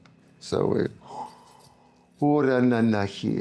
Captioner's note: non-english speech